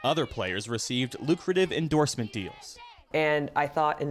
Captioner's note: girls chanting "usa!"